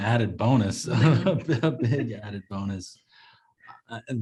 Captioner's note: Jesse laughing